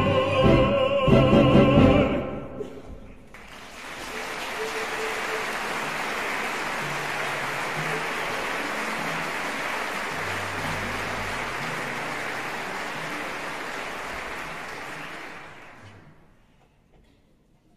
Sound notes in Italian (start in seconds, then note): 3.2 applauso